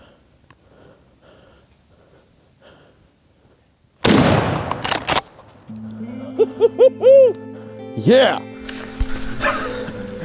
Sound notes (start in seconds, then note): 4.3 gun roars; 6.2 man whoops